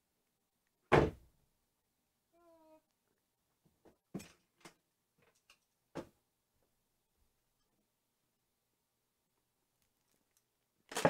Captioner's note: various sounds of getting things in place for painting